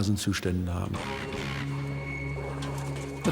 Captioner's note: locusts buzzing